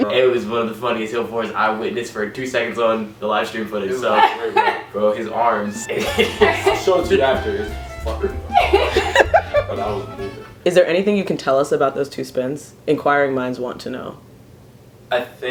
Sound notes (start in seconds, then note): 8.3 everybody laughs; 10.4 music abruptly stops